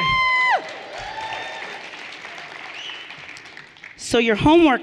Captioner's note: everyone cheering and applauding